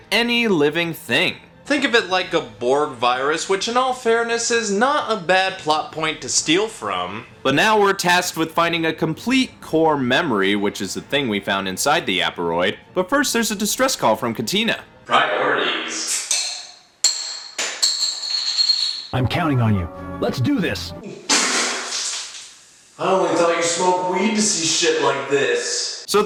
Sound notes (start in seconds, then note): 21.3 spit take